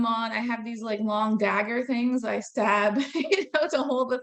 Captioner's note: laughing